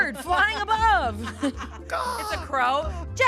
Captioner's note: everyone laughs